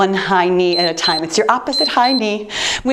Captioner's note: timer beeps